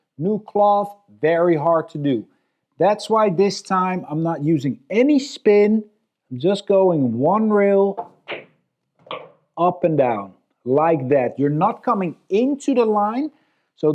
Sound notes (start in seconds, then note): 8.2 balls clacking